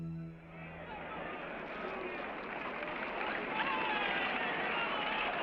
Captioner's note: people talking excitedly